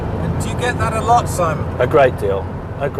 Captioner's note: voiceover